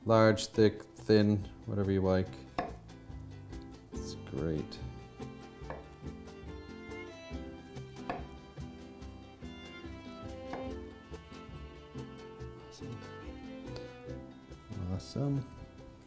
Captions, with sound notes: large, thick, thin, whatever you like. It's great! [atmospheric music] [knife chopping] Awesome.